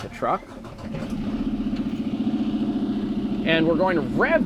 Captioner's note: truck engine revving